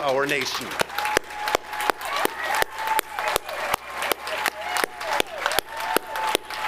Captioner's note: audience applauding and cheering